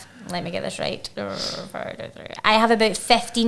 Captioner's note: counting quickly under her breath